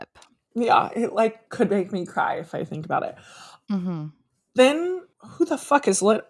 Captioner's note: mhmm